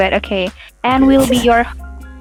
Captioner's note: giggles